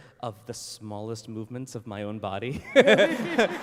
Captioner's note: laughs